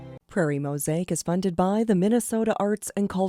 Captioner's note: voiceover